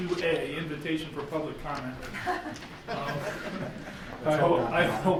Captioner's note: chuckling